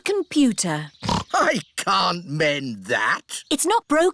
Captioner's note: snorts